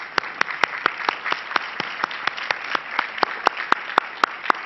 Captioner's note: crowd applauding